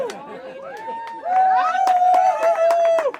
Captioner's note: cheering